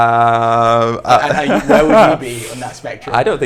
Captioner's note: chuckles